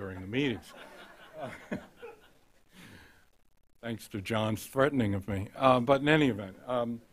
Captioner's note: laughter